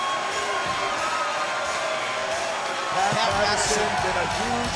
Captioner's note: crowd chatter